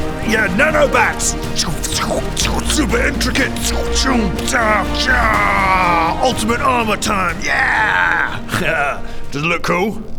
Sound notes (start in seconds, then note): 2.3 scchm scchuh srxch